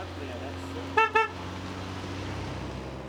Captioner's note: car horn